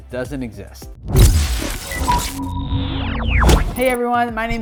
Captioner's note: scratchy effect